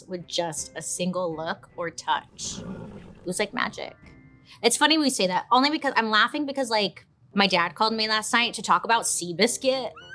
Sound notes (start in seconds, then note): 2.2 horse huffing